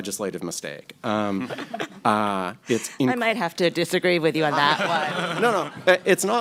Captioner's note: laughter